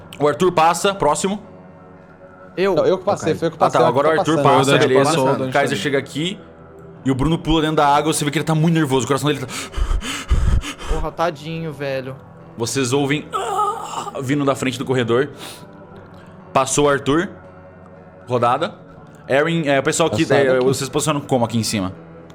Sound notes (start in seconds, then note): 9.4 heavy breathing; 13.3 groan